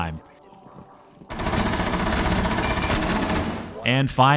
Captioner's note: gunfire